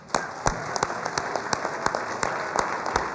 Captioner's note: applause